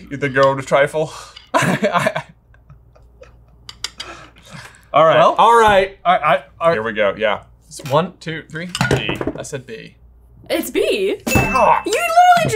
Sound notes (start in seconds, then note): 1.5 laughing